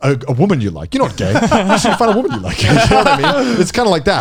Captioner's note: laughs